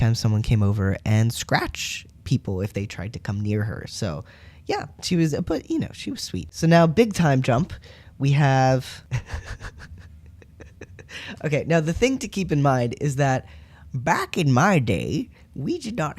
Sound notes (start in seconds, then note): 9.1 laughter; 13.6 old man voice